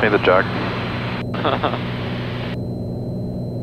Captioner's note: laughing